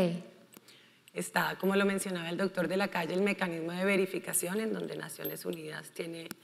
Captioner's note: speaking in foreign language